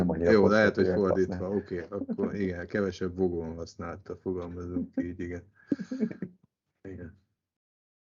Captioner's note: laughter